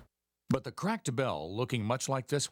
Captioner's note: voiceover